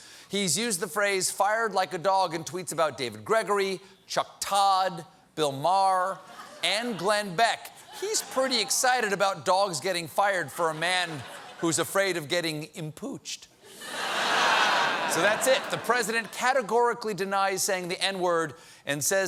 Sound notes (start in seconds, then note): 11.0 laughter